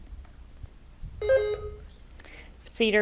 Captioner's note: bell rings